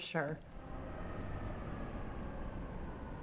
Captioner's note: traffic sounds